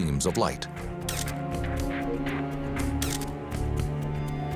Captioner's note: camera shutter clicking